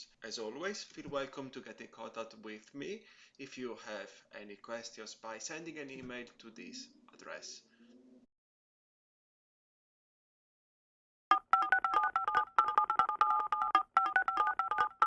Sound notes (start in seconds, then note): 11.3 phone dialing